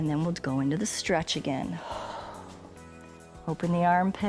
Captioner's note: exhales